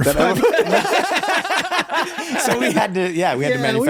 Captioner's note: everyone laughs